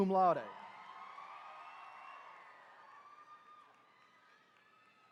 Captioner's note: attendees cheering